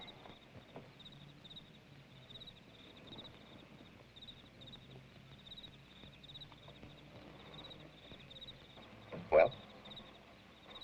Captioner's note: crickets chirping